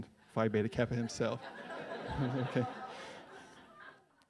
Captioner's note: laughs